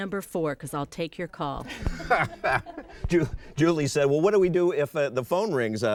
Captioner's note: laughing